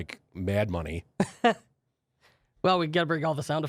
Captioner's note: laughs